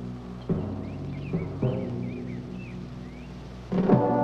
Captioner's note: birds tweeting